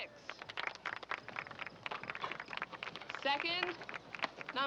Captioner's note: audience applauding